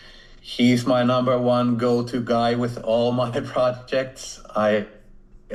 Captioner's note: chuckles